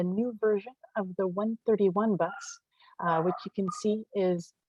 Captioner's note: dog barking in background